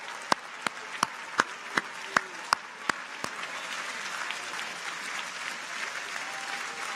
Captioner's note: audience applauds; clappers clacking